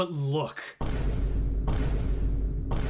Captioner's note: yet another vine boom